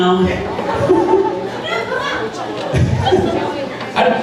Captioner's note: laughing